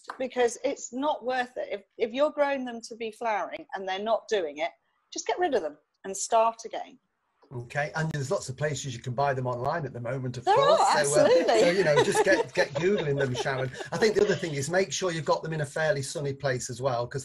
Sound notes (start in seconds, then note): 10.4 laughing; 10.9 mutters; 13.6 mutters